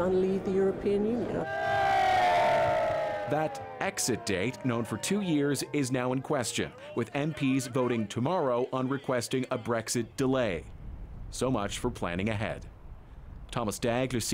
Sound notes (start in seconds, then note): 6.7 yelling